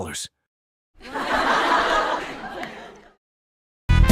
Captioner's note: laughs